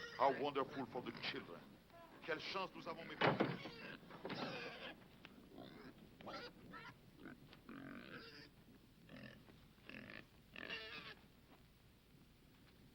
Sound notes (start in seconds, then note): 2.4 speaking foreign language; 4.3 Paisan squealing